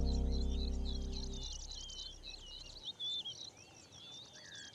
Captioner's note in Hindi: चहचहाहट